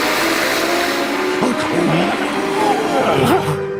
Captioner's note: questionable scooby noises